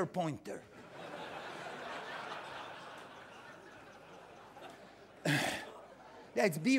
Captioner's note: laughter